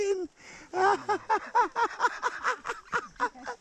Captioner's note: crazy person laugh